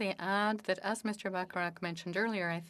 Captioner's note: speaking French